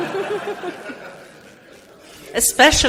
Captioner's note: audience laughs